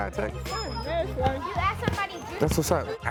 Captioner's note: children chattering